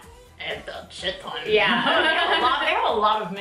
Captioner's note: laughs